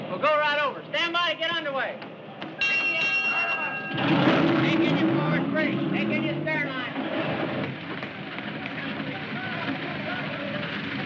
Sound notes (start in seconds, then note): 2.6 bell rings